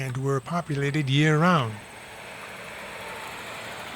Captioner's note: truck passing